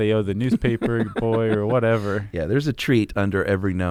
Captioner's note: laughs